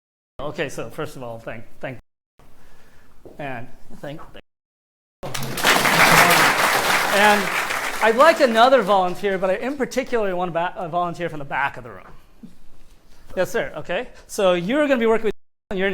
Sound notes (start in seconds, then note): 5.2 applause